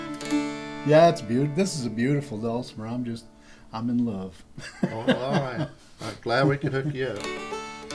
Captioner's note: dulcimer playing; laughter